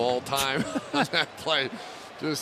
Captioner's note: laughter